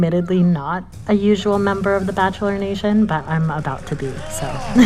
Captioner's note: soundbite of tv show, "the bachelorettes"; laughter